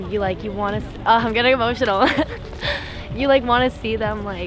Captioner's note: laughs